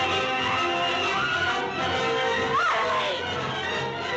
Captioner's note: screams